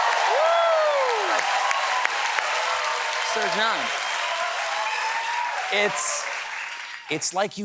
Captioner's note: cheering